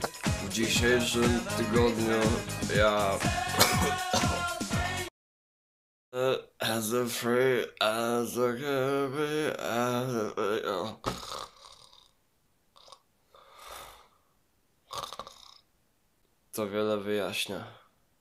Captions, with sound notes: In todays week I .... *Singing something while drunk* *Snoring* That actually explains a lot....